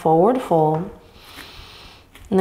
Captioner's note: inhaling deeply